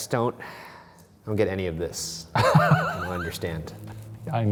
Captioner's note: laughing